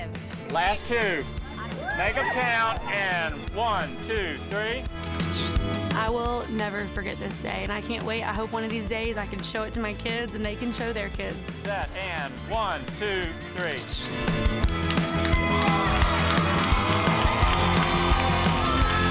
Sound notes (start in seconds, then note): 1.6 cheering; 5.0 camera clicking; 13.6 camera clicking; 15.0 cheering